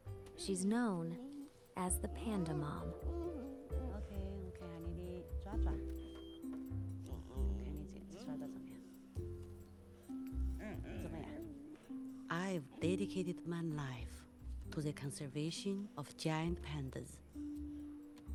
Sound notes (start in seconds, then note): 3.0 panda groaning softly; 3.9 continues speaking Mandarin